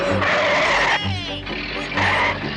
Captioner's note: tires squeal